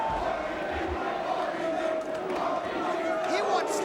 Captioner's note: crowd chanting